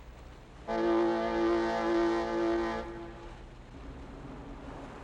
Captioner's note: boat horn blaring